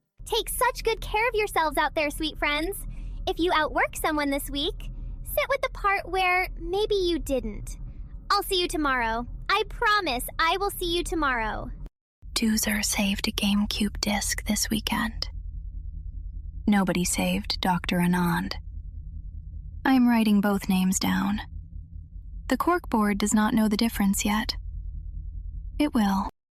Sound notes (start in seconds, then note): 12.7 whispers